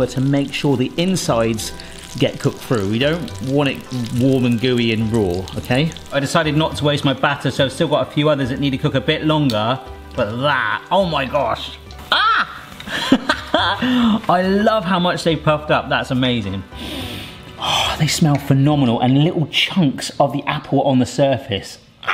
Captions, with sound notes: to make sure the insides get cooked through. We don't want it warm and gooey and raw. Okay? I decided not to waste my batter. So I've still got a few others that need to cook a bit longer. But that, oh my gosh. Ah (laughs) I love how much they've puffed up. That's amazing. Oh, they smell phenomenal and little chunks of the apple on the surface.